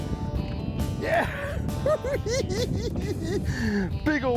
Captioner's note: laughs